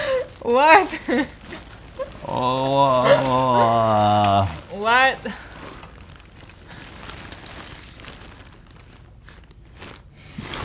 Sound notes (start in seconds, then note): 2.2 moans